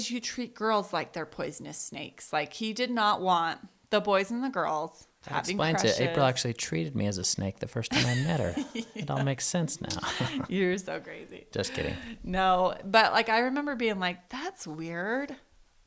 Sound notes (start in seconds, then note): 7.9 laughs